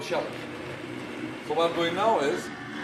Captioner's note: blender noises increase